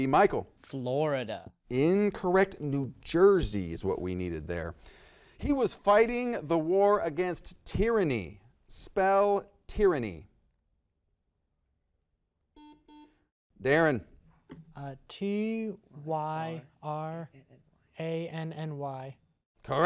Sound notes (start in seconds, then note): 12.5 buzzer beeps